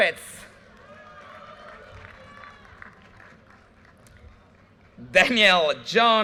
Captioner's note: audience cheers and applause